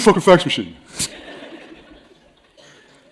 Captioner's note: laughter